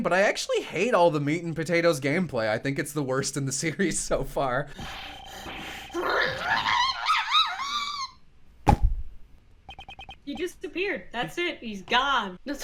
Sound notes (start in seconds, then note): 8.6 pop